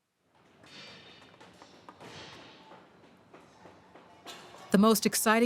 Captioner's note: hammering, objects clattering